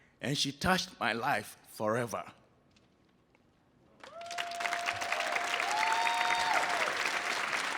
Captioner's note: audience applauding